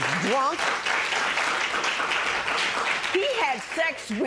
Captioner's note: applause